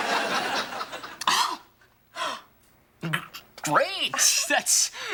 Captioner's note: exclaims